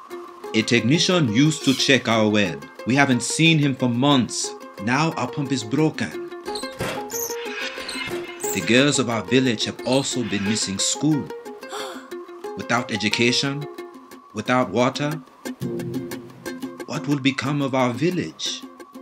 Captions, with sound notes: - A technician used to check our well. We haven't seen him for months. Now, our pump is broken. (pump creaking) The girls of our village have also been missing school. - (gasps) - Without education, without water, what will become of our village?